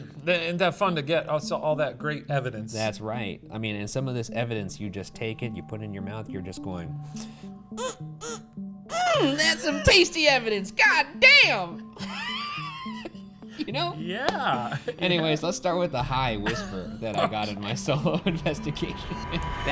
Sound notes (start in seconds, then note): 8.9 moaning; 12.0 laughing; 19.1 laughs